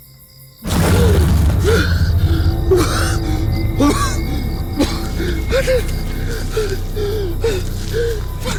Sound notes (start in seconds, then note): 1.4 Matt gasping